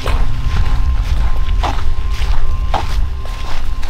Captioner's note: footsteps fall